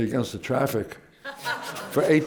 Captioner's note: laughter